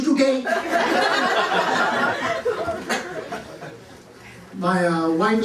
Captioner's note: laughter